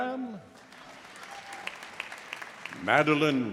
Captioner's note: audience applauding